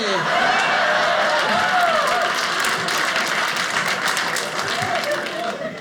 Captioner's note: audience cheering